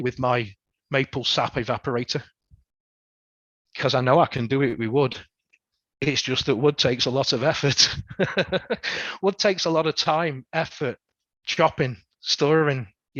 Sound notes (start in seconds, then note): 7.7 laughs